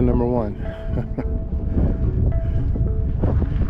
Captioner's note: laughs